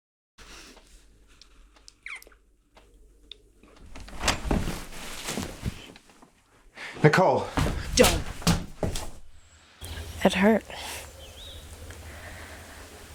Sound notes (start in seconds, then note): 3.7 door opening